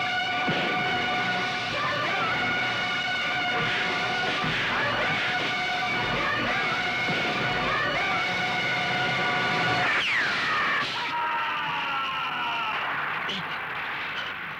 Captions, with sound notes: "Life is a struggle". "Life is a struggle". "Life is a struggle". - (Gunshot) - (Groans)